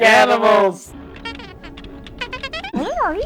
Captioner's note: R4 beeping